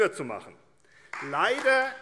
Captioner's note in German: Beifall AfD